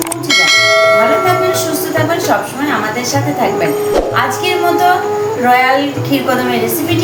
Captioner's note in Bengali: ঘণ্টা